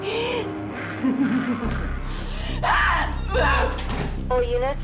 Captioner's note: laughing